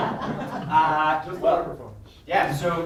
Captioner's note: students laughing